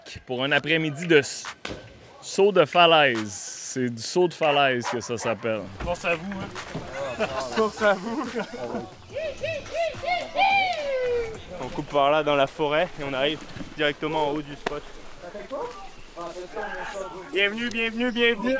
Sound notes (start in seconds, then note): 1.6 water bursts; 9.7 screams